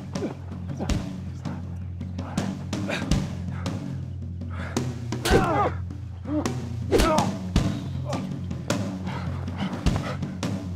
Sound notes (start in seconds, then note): 5.2 punches thudding